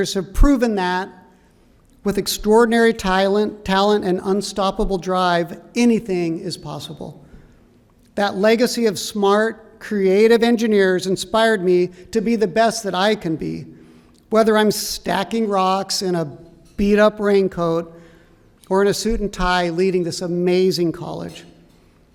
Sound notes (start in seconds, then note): none